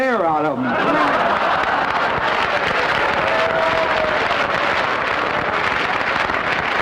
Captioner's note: audince laughter and applause; applause